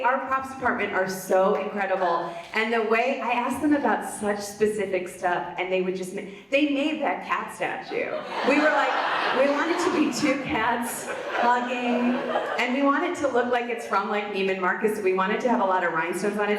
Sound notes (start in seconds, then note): 8.1 audience laughs